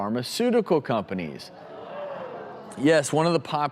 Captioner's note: audience responds